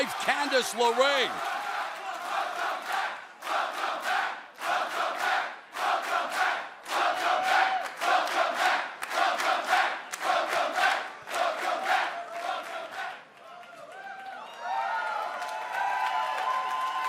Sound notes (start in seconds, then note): 2.9 crowd cheering